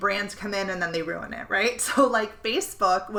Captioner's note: chuckling